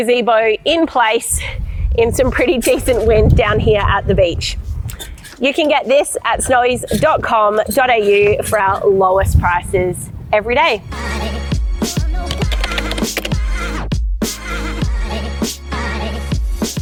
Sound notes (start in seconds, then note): 4.3 wind blows; 11.0 upbeat outro music; 12.2 computer typing; 13.6 upbeat outro music